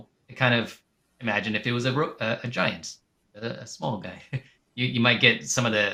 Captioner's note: chuckles